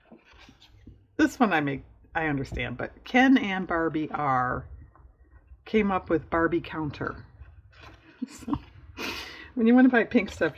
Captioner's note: laughs